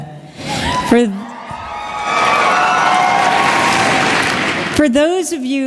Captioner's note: cheering and Applause